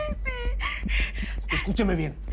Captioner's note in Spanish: Sollozos